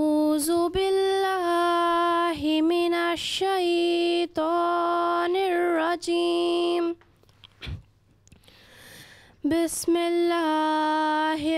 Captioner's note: Recitation of the Holy Qur'an in Arabic